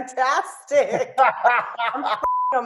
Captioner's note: Jeremy laughs